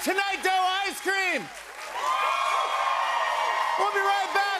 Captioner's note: cheers and applause